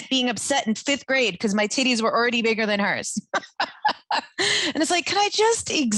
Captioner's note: laughing